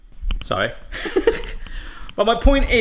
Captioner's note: laughs